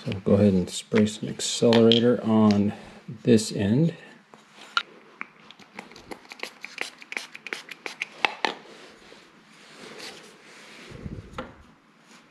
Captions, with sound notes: I'll go ahead and spray some accelerator on this end, [Spray sounds]